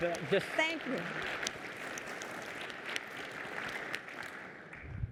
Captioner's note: applause